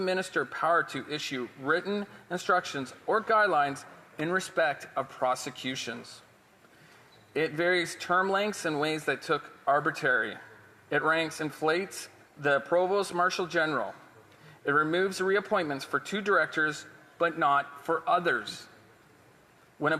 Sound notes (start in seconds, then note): none